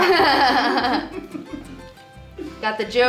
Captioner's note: laughs